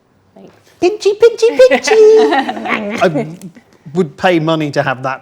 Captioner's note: group laughs